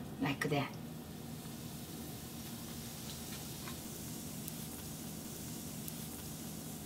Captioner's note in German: Knistern des Öles